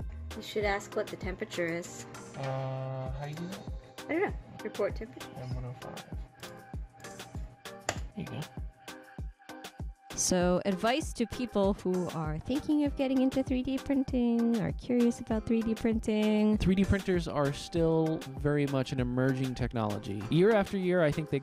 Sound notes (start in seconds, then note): 7.9 clicking